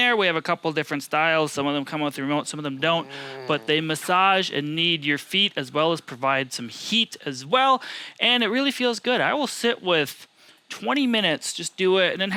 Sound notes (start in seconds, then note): 2.8 grunting